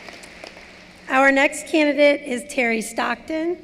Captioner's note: applause